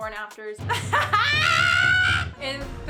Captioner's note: laughs